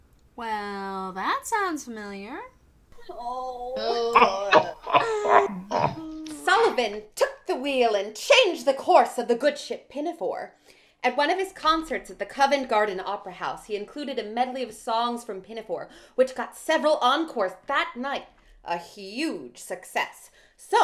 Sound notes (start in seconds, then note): 3.0 groans & laughter